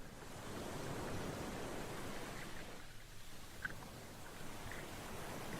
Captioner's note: gentle water